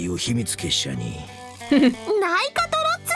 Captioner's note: chuckles